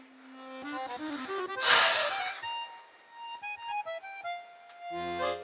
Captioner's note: sigh